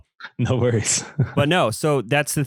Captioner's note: laughs